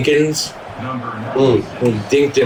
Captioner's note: crowd Noises